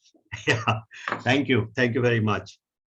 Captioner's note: chuckles